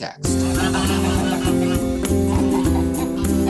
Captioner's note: poultry clucking